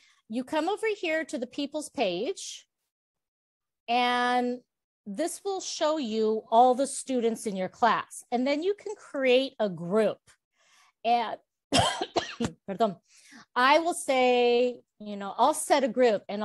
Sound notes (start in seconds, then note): 11.7 coughs, Spanish